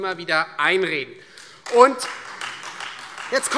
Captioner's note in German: Beifall Freie Demokraten